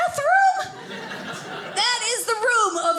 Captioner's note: audience laughing